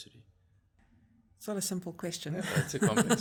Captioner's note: laugh